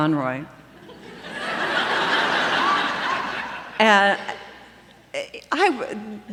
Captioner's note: laughter